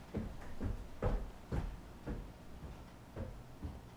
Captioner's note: none